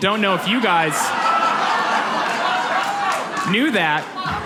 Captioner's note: audience laughs